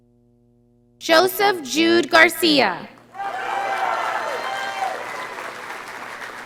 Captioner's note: audience applauding